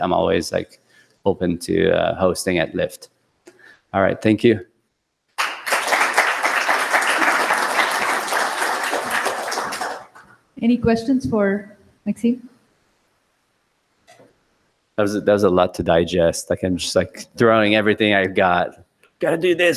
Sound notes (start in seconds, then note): 5.3 applause